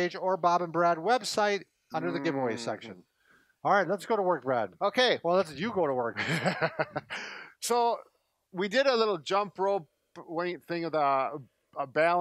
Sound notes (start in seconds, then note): 6.2 laughs